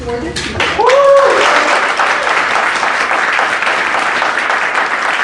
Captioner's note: cheers, applause